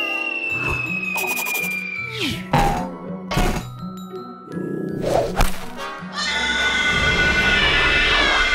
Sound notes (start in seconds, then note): 6.2 cries